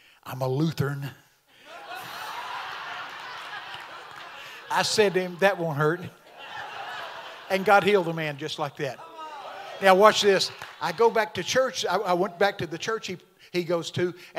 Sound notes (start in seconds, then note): 1.6 congregation laughing